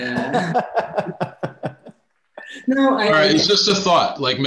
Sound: laughing

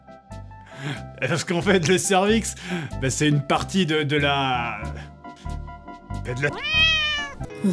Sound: meaaaaoooow

